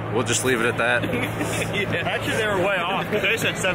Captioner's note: laughter